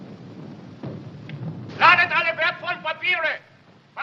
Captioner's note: shouting in german